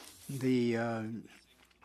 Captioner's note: speaking French